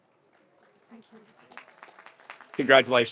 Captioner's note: audience applauds